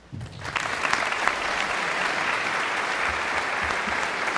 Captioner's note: audience clapping